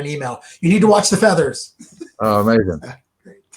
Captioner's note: laughs